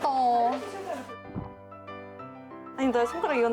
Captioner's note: swallow